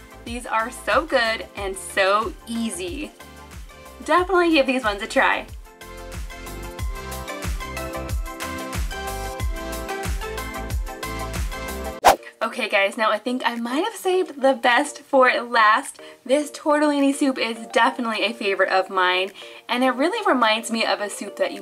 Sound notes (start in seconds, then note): 6.7 upbeat music; 12.0 air whooshing